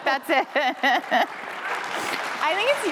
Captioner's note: applause